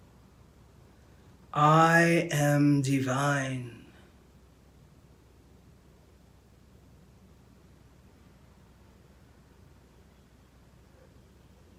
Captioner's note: silence; silence